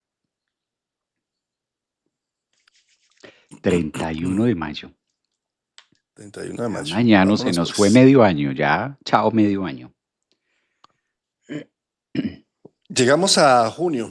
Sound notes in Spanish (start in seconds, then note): 11.5 carraspeo